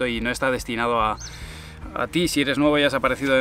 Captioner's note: sighs